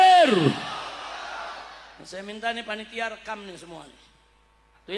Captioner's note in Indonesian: bersorak